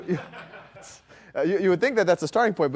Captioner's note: laughter